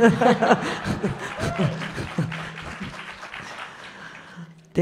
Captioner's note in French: rires